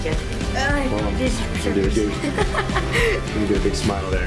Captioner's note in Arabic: يضحك